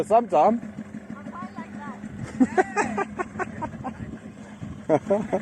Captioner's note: laughter